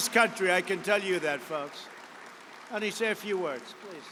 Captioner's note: applause